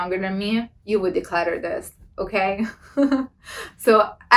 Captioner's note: laughs